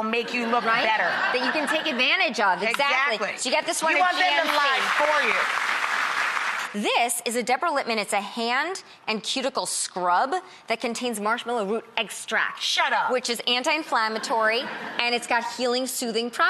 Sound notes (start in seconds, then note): 3.8 audience applauding